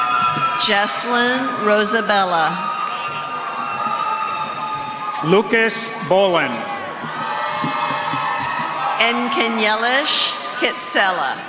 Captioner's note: cheers and applause